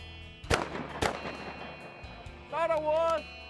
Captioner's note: gun shots